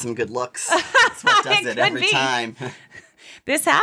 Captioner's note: laughs